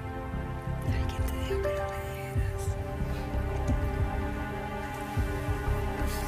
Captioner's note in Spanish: susurrando